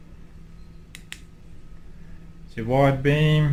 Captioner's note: clicks button